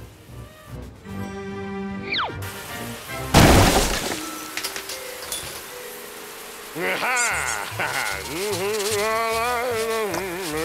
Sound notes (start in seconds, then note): 6.7 laughs; 8.6 humming